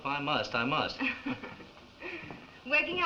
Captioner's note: chuckles